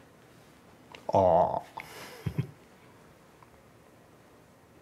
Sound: chuckles

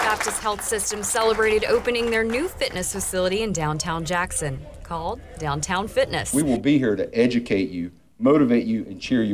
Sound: applause

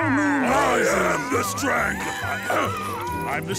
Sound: clearing throat

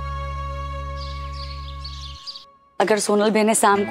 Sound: birds chirping

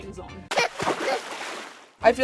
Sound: splashes

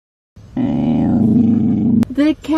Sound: growling

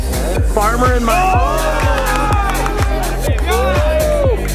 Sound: group cheers

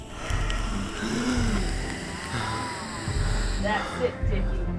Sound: vape pen crackles

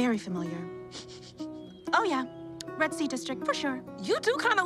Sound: sniffs

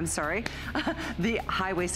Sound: laughter

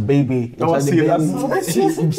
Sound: laughing

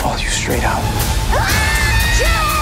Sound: screaming

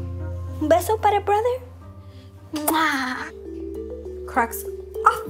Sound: kissing sound

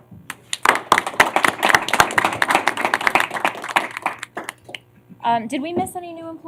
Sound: applause

